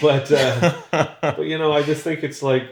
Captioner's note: laughs